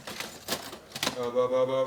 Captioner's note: clinking